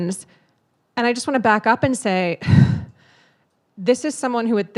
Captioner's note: sighs